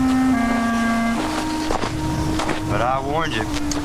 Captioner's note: dramatic music; footsteps crunching